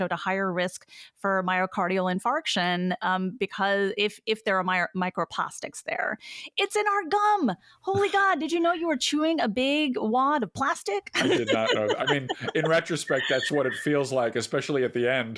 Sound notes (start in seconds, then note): 11.1 laughs